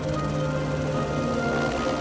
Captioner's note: helicopter blades whirring